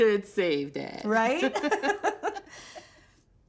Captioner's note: both laughing